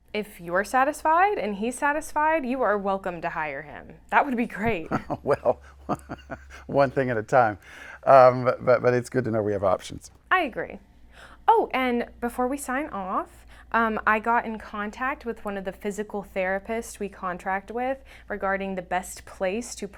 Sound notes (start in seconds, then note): 4.6 laughing